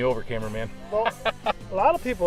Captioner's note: laughter